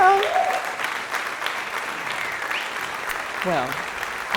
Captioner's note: applause